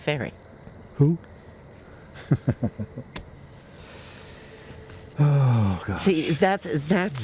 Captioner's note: laughs